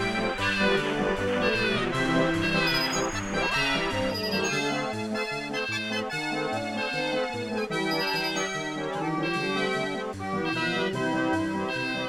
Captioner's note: penguin cries comparison